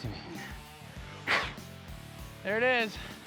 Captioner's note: blows